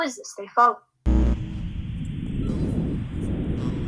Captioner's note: buzzing